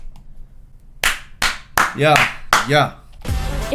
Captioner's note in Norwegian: Sarkastisk klapping